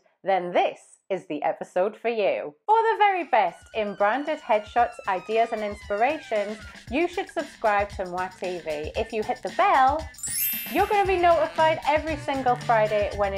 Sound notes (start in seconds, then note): 10.2 bell dings